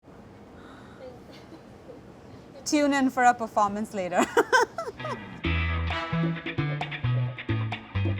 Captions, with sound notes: - Tune in for a performance later. [laughs] [upbeat music]